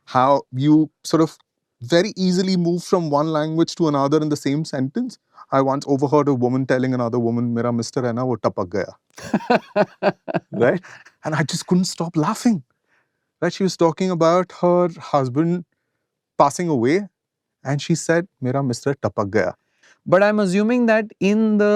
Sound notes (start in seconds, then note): 9.2 laughter